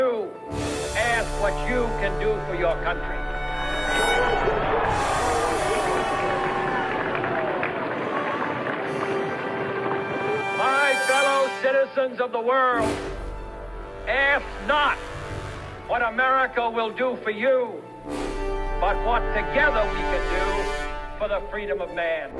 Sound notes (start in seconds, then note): 2.7 crowd cheers; 3.3 crowd applauds; 3.3 dramatic spirited music